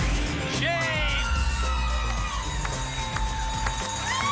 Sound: applause and cheering

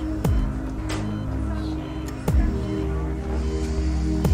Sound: beeping

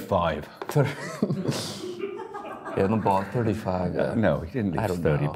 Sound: group laughs

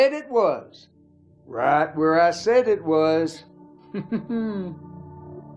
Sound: condescending chuckle

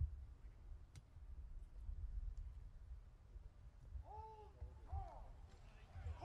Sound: soldiers shouting commands

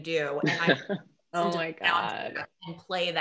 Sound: chuckling

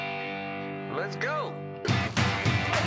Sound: guitar chord; voiceover; upbeat rock music

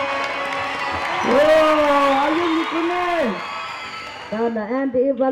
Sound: cheers and applause

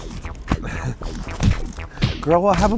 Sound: punching, slapping sounds

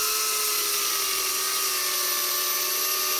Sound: chainsaw motor

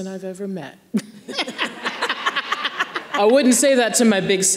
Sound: everyone laughing

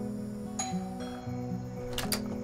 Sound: doorbell rings

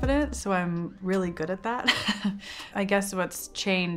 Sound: chuckles

